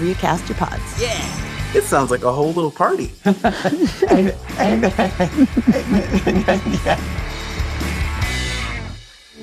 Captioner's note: laughs